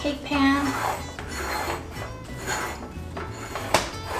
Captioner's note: scraping sound